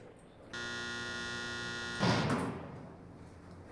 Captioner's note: buzzer